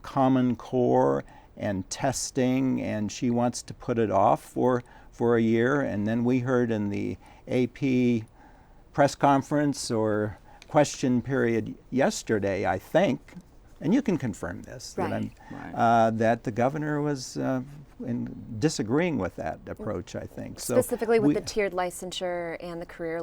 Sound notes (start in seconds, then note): none